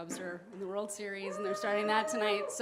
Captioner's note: audience member whoops